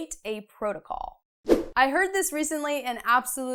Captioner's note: frame whooshes